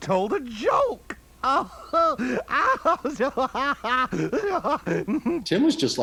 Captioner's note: laughing maniacally